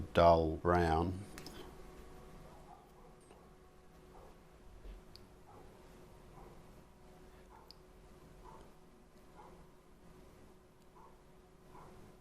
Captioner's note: silence